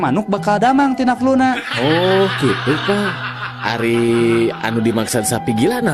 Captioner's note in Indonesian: tertawa